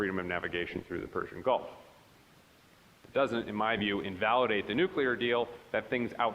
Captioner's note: none